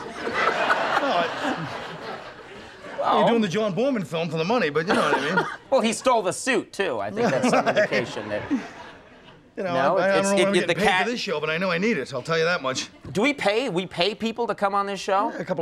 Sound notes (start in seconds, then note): 0.0 audience laughing; 0.6 Conan laughing; 4.9 Conan laughing